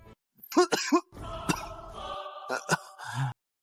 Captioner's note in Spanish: Cof, cof; cof